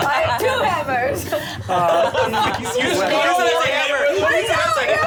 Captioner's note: overlapping chatter